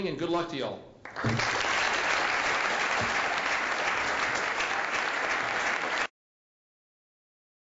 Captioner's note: applause